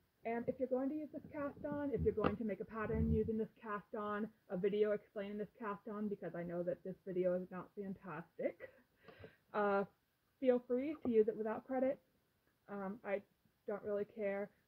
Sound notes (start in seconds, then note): 7.9 lightly laughing